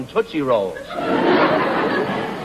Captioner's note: laughter